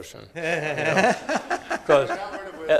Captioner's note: all laughing